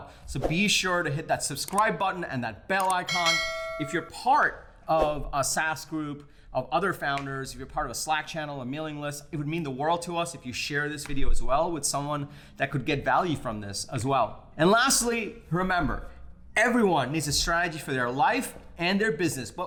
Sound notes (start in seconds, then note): 3.0 bell ringing